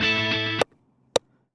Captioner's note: hammering